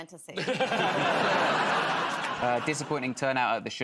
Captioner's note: laughter